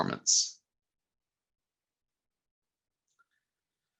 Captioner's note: silence